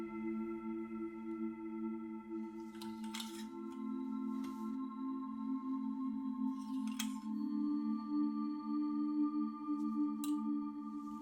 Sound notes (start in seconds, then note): 2.6 hangers clanging